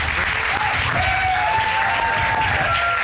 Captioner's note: cheering